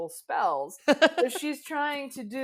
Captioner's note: laughs